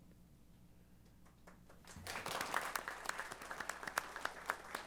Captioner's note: applause